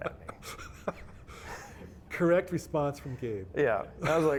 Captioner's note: laughing